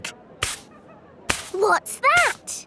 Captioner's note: brushing